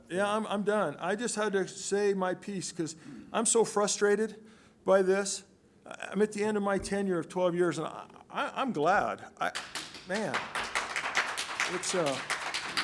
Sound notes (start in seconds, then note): 9.5 applause